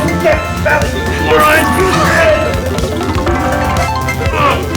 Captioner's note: both grunting